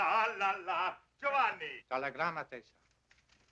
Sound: Italian spoken audio

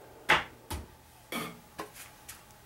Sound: bangs

